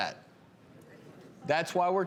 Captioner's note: audience murmurs